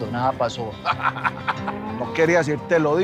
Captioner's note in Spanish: Risas